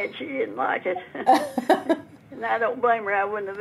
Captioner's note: laughing